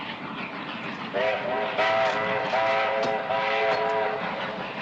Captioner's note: train whistling